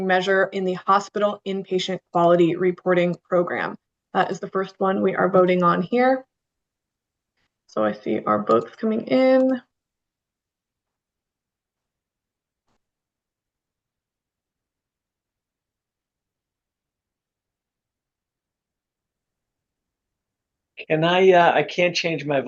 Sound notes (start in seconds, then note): 13.9 pause